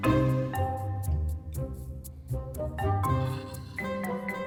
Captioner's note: none